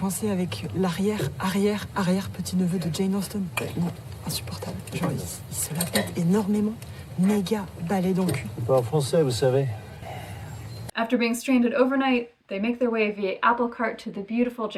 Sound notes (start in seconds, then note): 8.8 speaking In French; 10.2 quietly In French